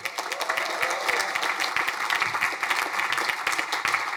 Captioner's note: crowd applauding